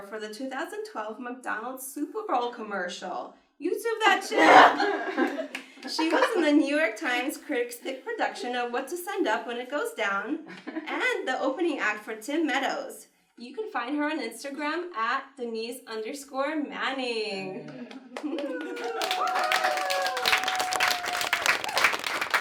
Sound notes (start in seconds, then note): 4.3 everyone laughs; 17.8 audience cheers and applauds